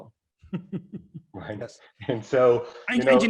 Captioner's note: laughter